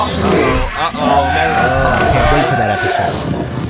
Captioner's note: cheer